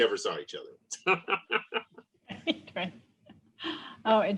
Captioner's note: laughter